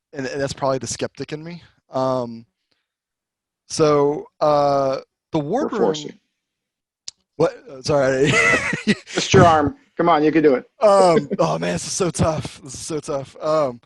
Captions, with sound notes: and that's probably the skeptic in me. So the wardroom-- - We'll force you. - What? Sorry. (laughs) - Twist your arm, come on, you can do it. - Oh man, this is so tough, this is so tough.